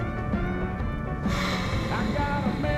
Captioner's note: Rebecca sighs